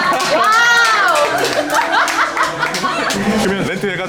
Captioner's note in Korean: 박수, 웃음